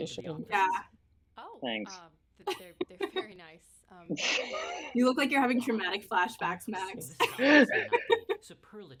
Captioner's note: laughter